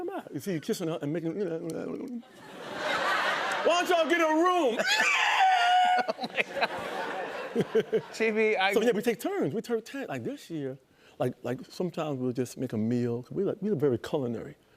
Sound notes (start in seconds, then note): 4.6 imitates tires squealing